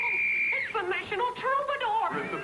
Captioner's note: whistle